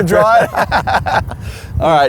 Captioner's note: laughs